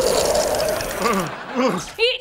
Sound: moaning

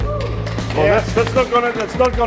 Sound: cheering; clapping

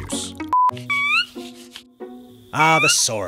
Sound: squeaky peep

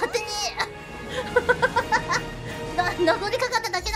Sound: laughing

